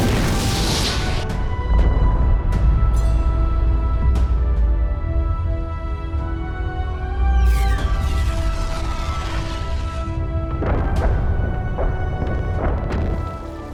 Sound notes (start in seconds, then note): 1.6 explosion; 10.4 explosions